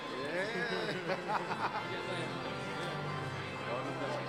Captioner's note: laughs